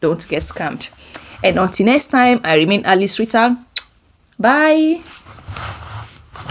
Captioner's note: kisses